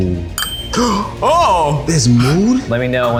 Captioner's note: bell dinging; gasps